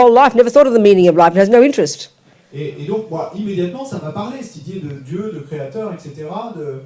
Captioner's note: French